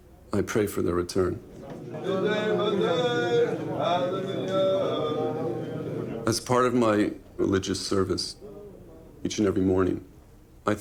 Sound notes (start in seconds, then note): 2.1 chanting in foreign language